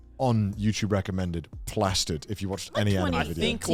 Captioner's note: men laugh